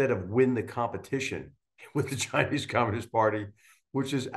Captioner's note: laugh